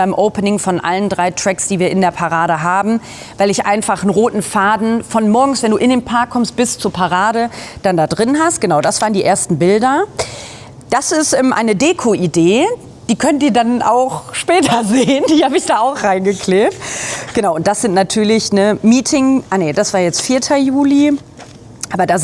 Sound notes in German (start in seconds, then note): 14.6 gelächter